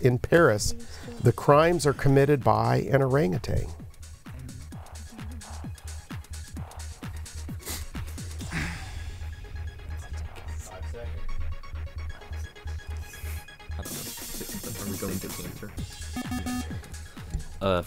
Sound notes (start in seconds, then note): 3.6 whispering